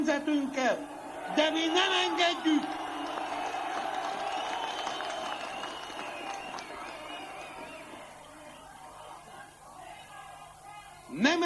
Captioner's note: cheers